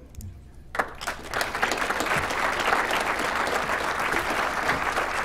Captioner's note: applause